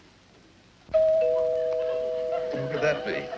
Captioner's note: doorbell rings